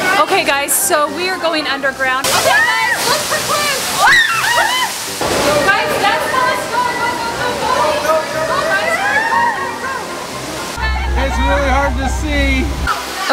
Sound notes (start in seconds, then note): 4.0 screams